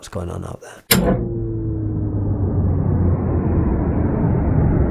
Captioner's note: sound of an engine shutting down